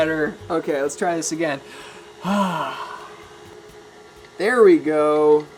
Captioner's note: sighing